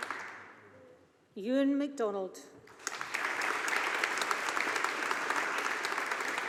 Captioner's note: audience applauding